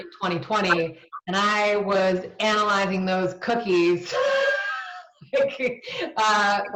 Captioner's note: laughs